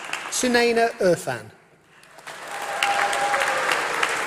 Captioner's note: applause